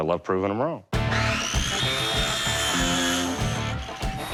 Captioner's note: sawing